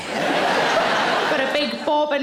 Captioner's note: audience laughs